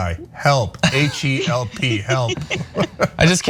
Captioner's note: laugh